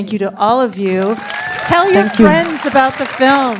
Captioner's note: applause